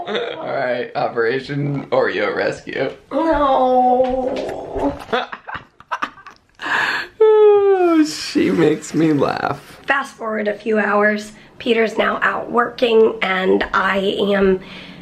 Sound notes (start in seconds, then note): 5.0 laughing